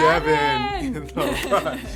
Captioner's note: laughing